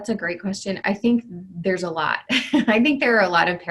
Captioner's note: chuckles